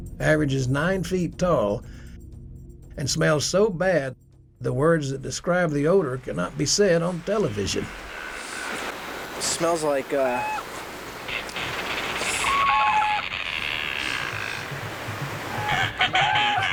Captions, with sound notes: It weighs a half a ton. Average is nine feet tall and smells so bad, the words that describe the odor cannot be said on television. (water gurgling) - Smells like. (animals screeching)